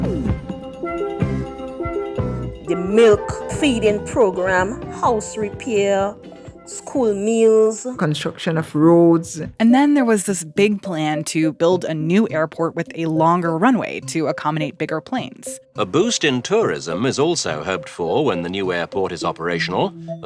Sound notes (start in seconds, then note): 15.3 soundbite of archived recording